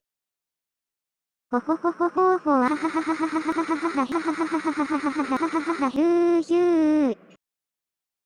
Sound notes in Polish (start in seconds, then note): 1.6 mruczenie naśladujące intonację zdania